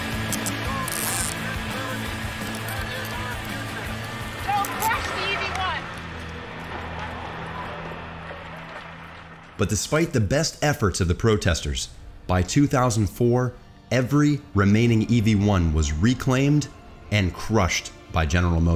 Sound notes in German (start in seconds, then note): 4.3 Beifall